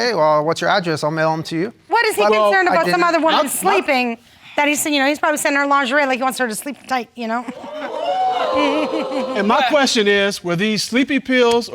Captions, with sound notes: "Well, what's your address? I'll mail 'em to you." What, is he concerned about some other woman sleeping, that's he's, you know, he's probably sending her lingerie. Like, he wants her to sleep tight, you know. (AUDIENCE EXCLAIMS) And my question is, were these sleepy pills,